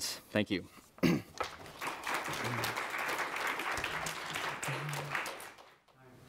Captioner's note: audience applauds